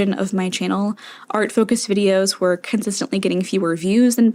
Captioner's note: inhale